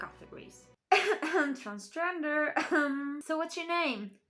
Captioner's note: cough cough